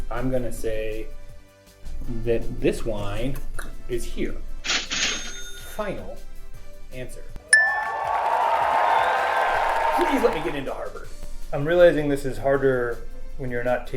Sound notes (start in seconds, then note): 7.5 applause